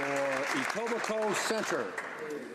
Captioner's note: applause